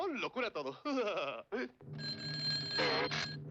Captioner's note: ring